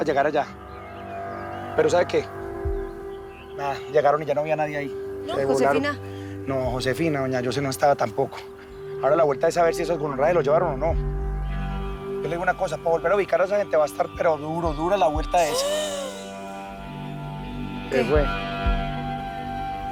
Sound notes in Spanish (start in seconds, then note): 15.4 Grito ahogado